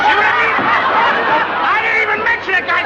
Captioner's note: laughter